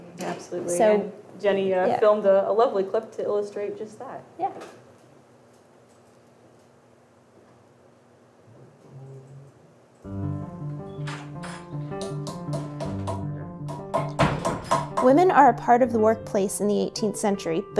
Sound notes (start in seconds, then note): 10.0 mallet tapping; 10.0 soft music